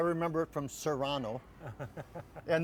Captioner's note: laughing